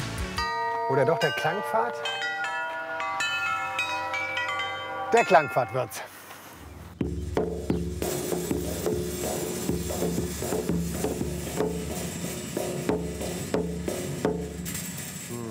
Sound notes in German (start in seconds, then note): 3.0 Glocken-Klang